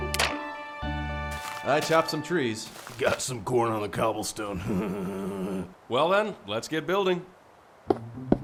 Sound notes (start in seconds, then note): 4.5 laughs